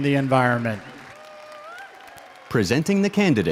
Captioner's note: audience applauds